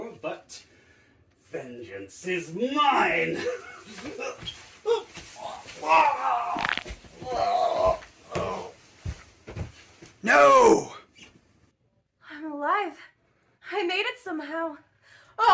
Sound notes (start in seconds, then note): 3.2 Dawn Avenger struggling; 4.0 bones cracking